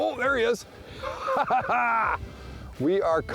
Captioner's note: laughing